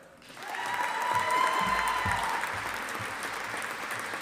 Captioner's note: audience applauding